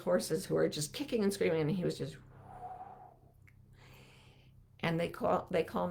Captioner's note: calmly exhaling